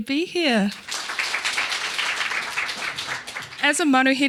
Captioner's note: audience applauding